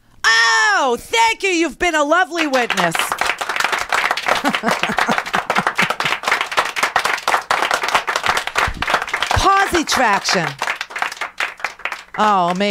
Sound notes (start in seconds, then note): 2.9 applause; 4.1 laughs; 4.5 applause